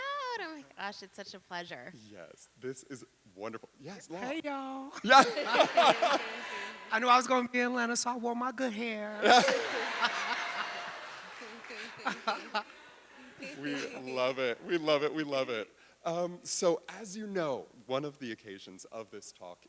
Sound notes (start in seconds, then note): 5.0 laughing; 5.0 audience laughing; 9.2 audience laughing